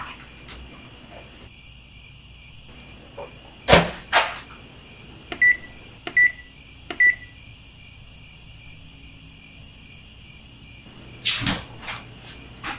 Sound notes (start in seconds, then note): 5.2 beep sounds; 7.4 crickets